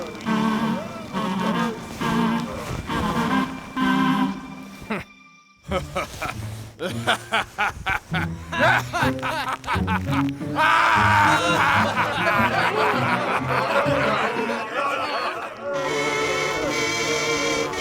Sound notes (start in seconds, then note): 4.9 laughing